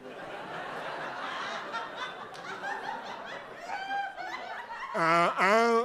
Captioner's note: laughter